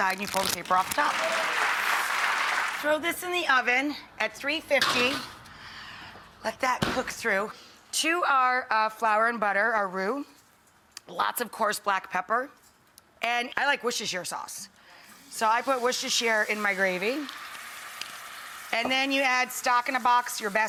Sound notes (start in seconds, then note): 0.7 applause